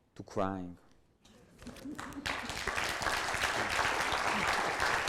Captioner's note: audience applauds